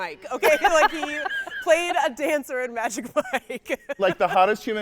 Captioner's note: laughing